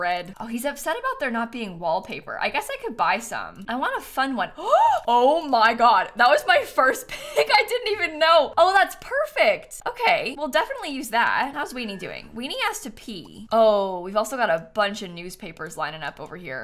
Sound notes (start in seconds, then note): 4.6 gasps